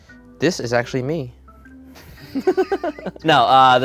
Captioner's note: laughing